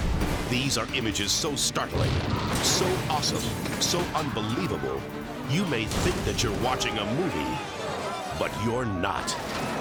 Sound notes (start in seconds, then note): 0.0 edgy dramatic music; 2.1 plane crashing; 3.8 car exploding; 6.4 people screaming; 9.5 car exploding